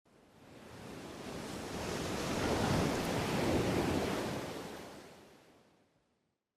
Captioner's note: waves splashing